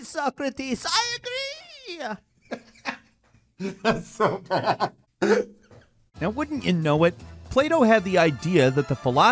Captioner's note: laughs